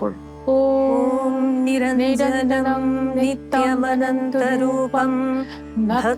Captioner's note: chanting